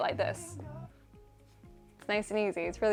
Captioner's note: music stops